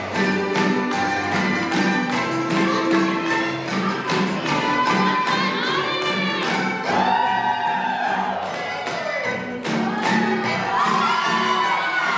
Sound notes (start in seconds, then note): 7.9 applause